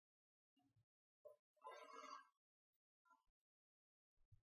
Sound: none

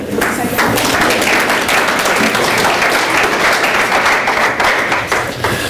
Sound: applause

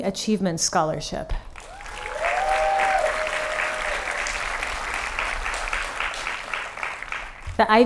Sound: applause

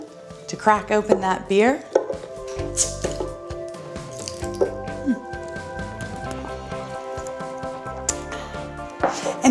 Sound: sipping sounds

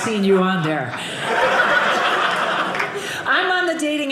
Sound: audience laughing

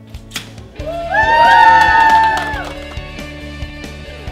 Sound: crowd cheers

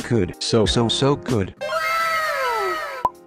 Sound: かわいい wow sfx

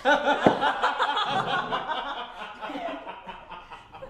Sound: laughing

